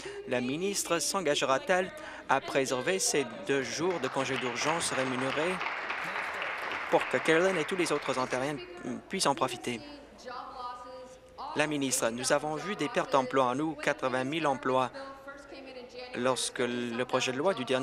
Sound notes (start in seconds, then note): 8.1 applause